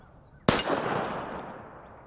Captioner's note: pistol fires